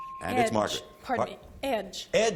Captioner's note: ping